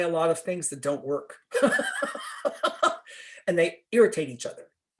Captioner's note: laughter